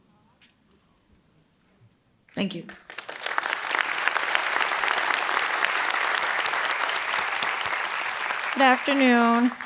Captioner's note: applause